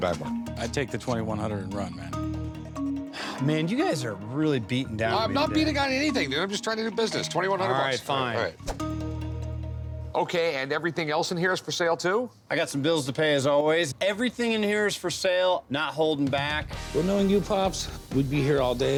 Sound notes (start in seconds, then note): 3.0 sighs